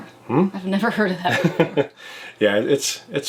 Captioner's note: laughs